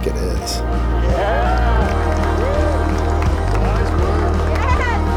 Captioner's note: all cheering